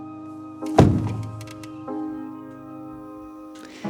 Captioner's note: fist thuds